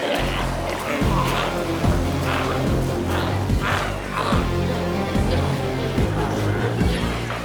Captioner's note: glowzies growling continues; intense music continues